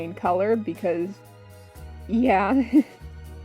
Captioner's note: chuckles